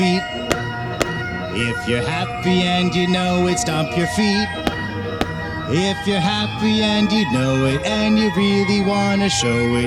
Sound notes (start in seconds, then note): 0.2 stomp Stomp; 4.4 stomp Stomp